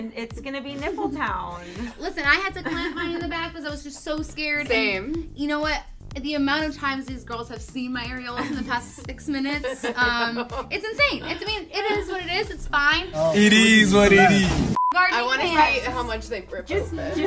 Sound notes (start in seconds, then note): 0.2 laughs; 9.4 laugh; 14.7 beep